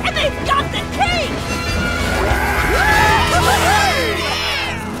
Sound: cheering

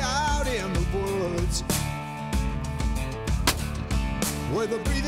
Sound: gunshot

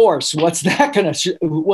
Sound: laughing

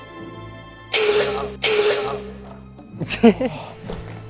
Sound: A blast of smoke

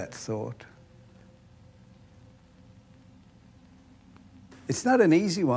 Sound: spherical sound

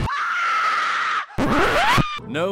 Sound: record scratch

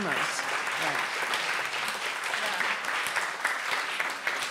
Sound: applause

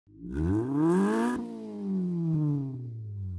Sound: engine revs

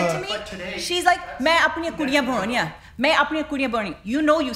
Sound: speaking Punjabi

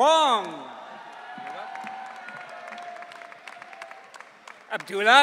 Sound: audience cheering

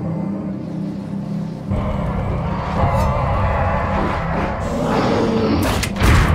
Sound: sound Effects

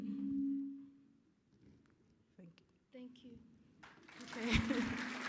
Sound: laughter

